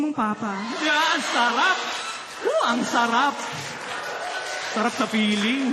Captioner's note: laughter